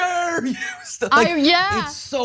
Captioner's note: laugh